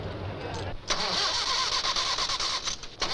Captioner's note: engine Cranking